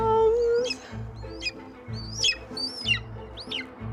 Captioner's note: Cleopatra screams